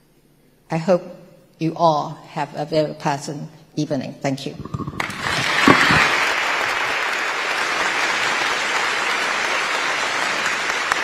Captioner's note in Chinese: 台下熱烈鼓掌